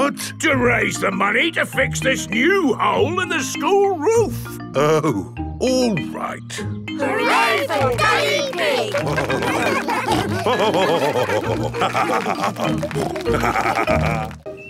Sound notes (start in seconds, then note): 9.9 all cheering; 10.9 laughing; 12.8 snorting